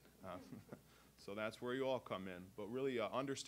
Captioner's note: audience chuckling